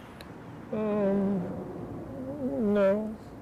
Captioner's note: humming